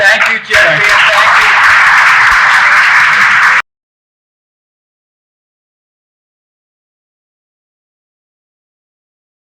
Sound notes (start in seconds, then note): 2.0 applause